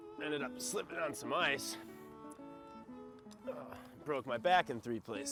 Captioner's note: groans